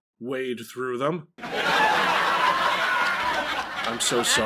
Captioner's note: laugh track